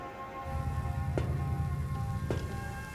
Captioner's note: sound of footsteps